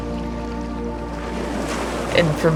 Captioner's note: waves crashing